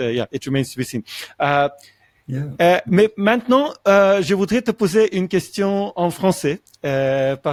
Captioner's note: French